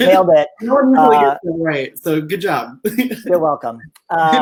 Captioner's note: laughs; laughs